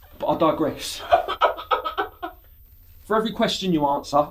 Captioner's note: muffled crying